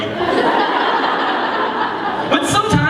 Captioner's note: laughter